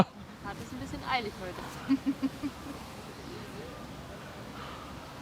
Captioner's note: laughing